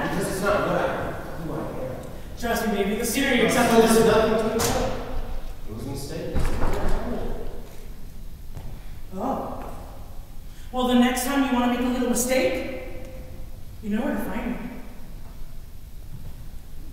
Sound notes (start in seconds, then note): none